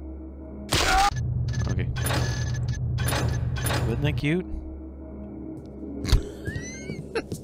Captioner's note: laughs